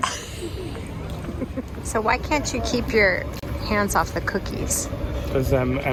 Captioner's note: laughing